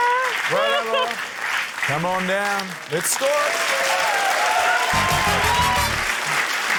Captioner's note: cheering, applause